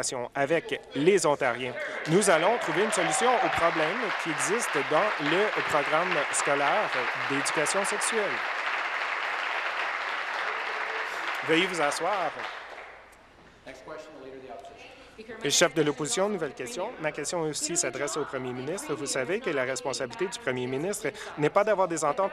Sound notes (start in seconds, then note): 7.5 applause